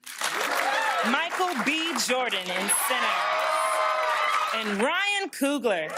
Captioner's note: cheering